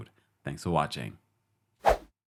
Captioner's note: outro whooshing